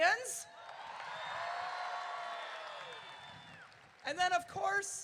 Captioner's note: crowd cheering